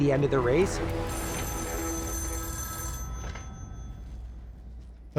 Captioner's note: telephone ringing